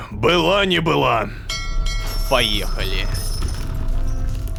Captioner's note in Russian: Звук корабельного колокола